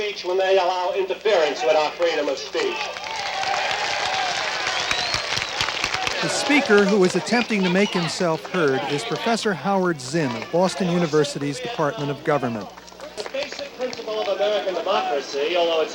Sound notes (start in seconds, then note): 3.3 applause